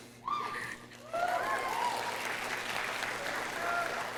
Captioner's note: audience cheering